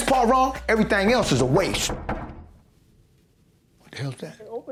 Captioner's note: door knocking